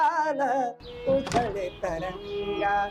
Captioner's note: door thuds open